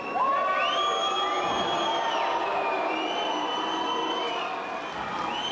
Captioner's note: audience cheering and booing